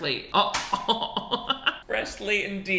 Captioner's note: laughing